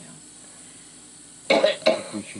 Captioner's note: coughing